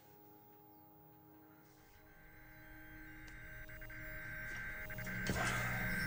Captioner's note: buzzing sound